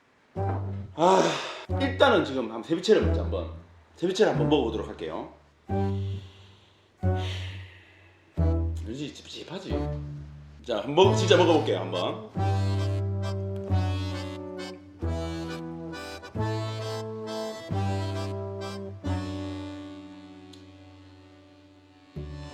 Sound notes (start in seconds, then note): 5.8 deep breathing